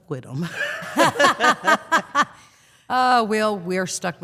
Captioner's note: all laughing